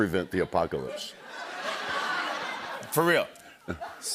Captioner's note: laughter